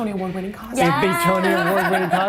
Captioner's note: laughs